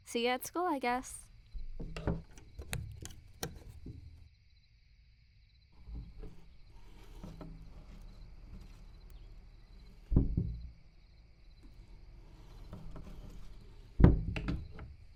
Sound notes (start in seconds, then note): 5.8 window Closes